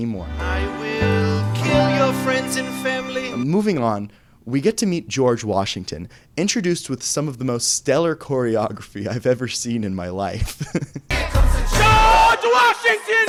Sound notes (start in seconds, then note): 10.4 chuckles